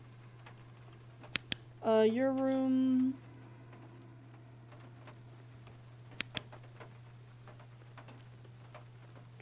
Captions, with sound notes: [Flashlight Clicks Off] Uh, Your Room. [Flashlight Clicks On]